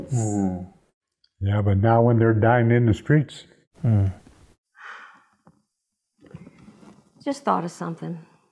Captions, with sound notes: Mmm. Yeah, but not when they're dying in the streets. Mmm. ( sigh ) Just thought of something.